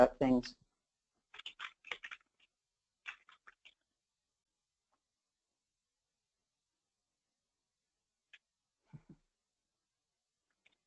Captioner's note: silence